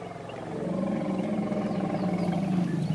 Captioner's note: rumbling